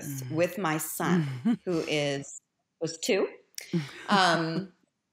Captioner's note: chuckles